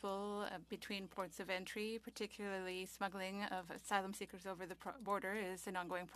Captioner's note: speaking French